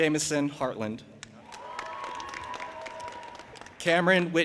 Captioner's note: audience applauding and cheering